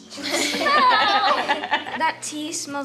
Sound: people laughing

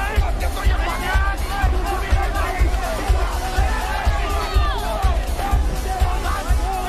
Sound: shouting

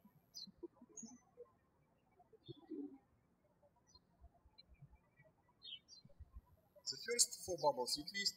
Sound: birds chirping

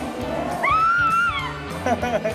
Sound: screams; chuckles

